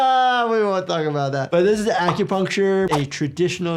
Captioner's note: graphics popping; graphics whooshing